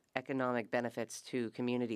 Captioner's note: speaking French